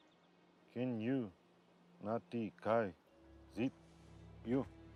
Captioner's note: speaking in foreign language